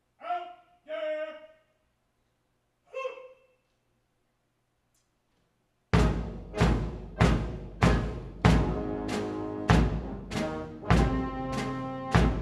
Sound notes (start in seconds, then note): 1.9 marine shouting orders; 5.9 drumming and brass music